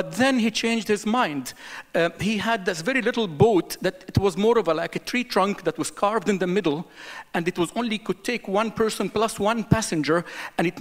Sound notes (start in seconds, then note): none